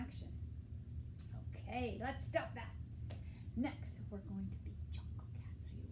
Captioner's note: whispering